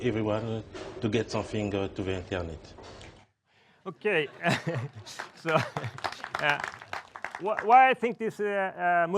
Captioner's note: crowd clapping